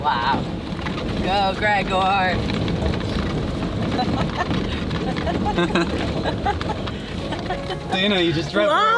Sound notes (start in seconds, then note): 4.0 laughing